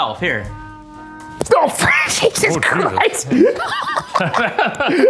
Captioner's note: laughing; laughs